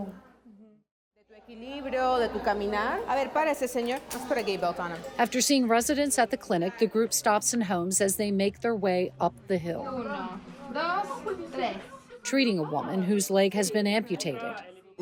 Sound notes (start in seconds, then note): 1.5 doctors speaking in foreign language